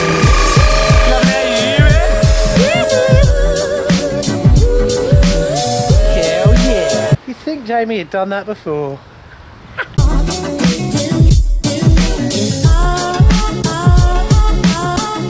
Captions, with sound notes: - Like how you do that. (cheering) Yeah, how we do it. You'd think Jamie had done that before. (chuckles) (upbeat electronic music)